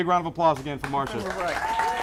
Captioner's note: crowd Clapping